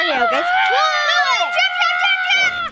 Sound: screaming

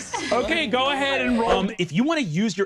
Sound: swooshing sound

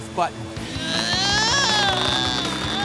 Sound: straining

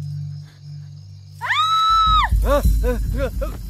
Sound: shouts

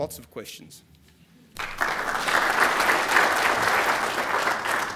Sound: applause

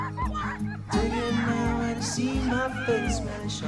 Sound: dogs barking

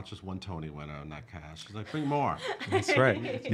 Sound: laughing

